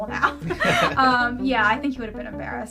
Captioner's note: both laughing